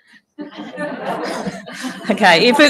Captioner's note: audience laughing